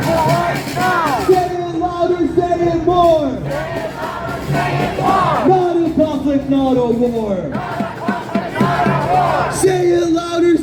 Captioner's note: chant